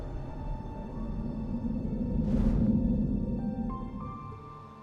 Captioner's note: air whooshing